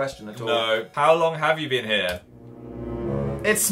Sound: dramatic noise

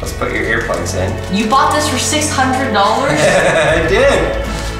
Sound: giggles

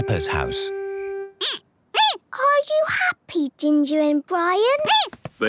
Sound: squeaking

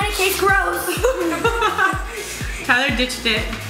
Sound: laughing

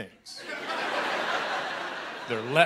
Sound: laughter

